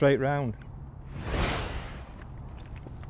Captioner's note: whooshing